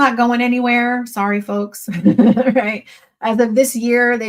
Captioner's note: chuckles